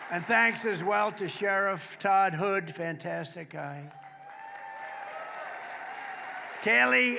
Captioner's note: applause